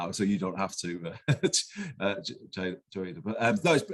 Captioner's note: laugh